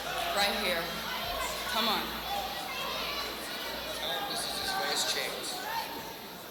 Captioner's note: crowd cheering